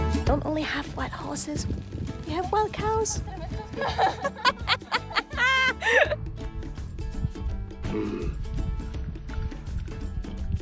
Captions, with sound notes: Not only we have wild horses... ...we have wild cows! [LAUGHTER]